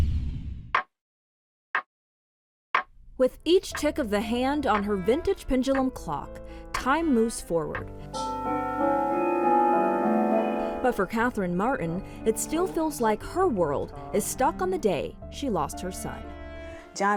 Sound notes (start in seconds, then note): 0.7 clock ticking; 8.1 clock bells chiming